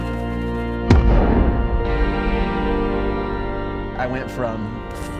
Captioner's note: loud gunshot